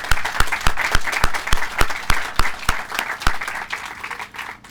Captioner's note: applause